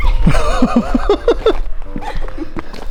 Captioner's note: laughs